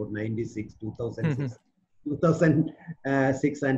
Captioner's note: chuckles